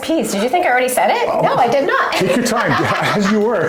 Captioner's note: laughter